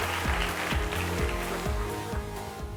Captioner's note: applause